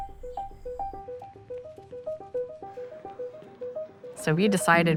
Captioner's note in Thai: ดนตรีมีชีวิตชีวา; เสียงฝีเท้า เสียงคุยพึมพำ